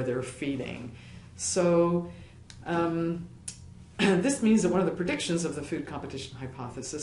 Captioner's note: cough